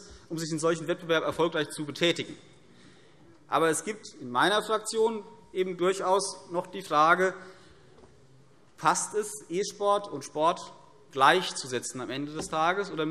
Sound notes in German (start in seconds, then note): none